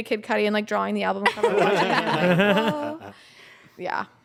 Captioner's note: everyone laughs